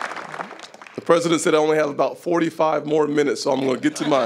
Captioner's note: applause